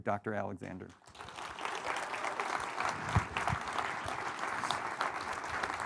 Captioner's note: audience applauding